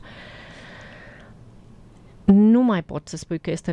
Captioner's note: sigh